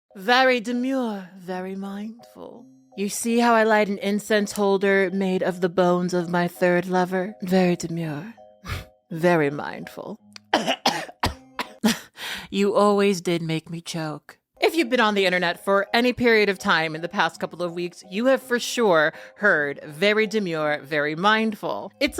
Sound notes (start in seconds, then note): 8.6 chuckles; 10.4 coughs; 11.8 chuckles